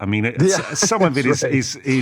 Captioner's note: laughs